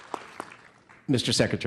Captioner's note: applause